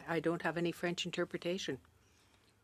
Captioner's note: speaking French